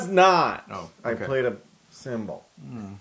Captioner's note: laugh